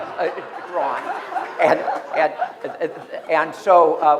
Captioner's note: laughter